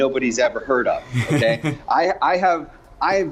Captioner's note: laughing